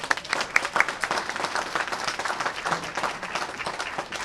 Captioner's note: applause